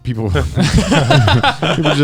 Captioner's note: Joey and Garnt laughing